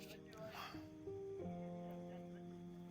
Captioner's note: neighbours talking outside